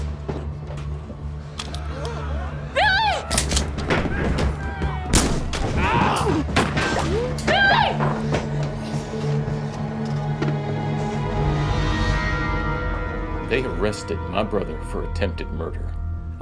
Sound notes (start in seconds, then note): 3.3 cocks rifle; 5.1 gunshot